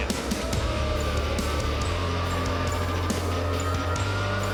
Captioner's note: crowd boos